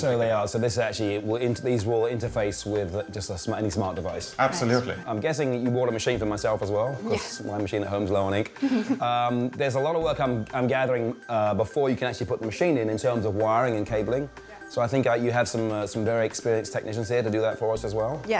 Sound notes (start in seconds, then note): 8.6 laughter